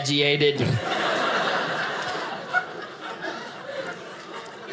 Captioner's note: audience laughing